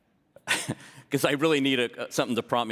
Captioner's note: laughter